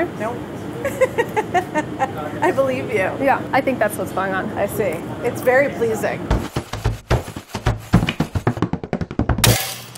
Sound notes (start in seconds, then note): 0.8 laughing; 6.3 percussive music